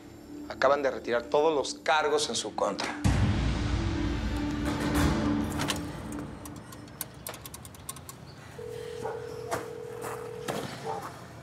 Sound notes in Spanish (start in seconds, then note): 8.6 ruido al marcar; 10.1 la otra línea timbra